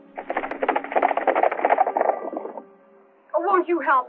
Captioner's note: horses galloping